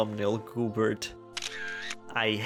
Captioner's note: camera shutter sfx